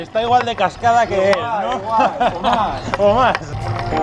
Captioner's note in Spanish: Risas